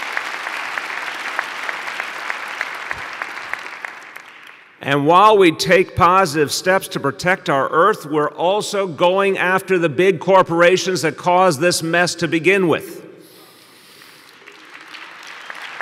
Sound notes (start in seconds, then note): 4.9 applause